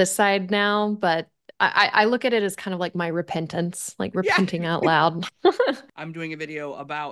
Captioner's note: chuckles